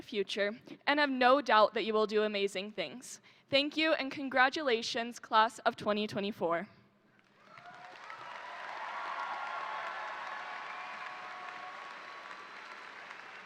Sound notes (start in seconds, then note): 7.2 crowd applauding; 7.3 crowd cheering